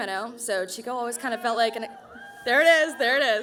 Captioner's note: cheering